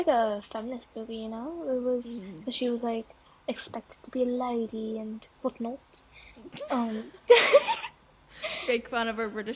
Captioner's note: insert British accent here